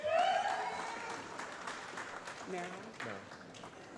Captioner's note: applause